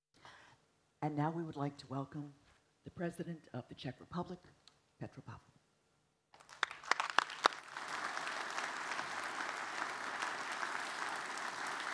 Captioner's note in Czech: Potlesk